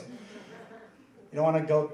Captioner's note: laughing